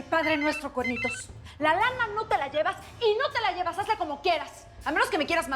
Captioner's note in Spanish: suena un celular